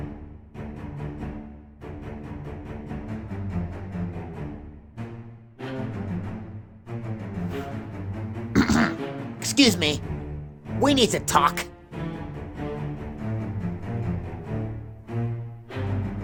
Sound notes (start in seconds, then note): 8.5 clearing throat